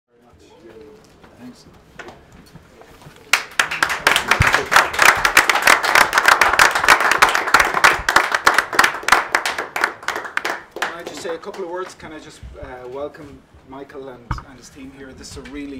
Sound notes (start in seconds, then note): 3.7 applause